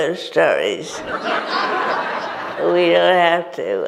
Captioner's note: audience laughs